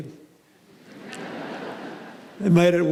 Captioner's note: laughter